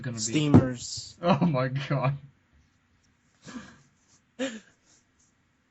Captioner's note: laughing